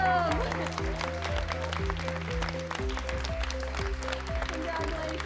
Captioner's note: crowd clapping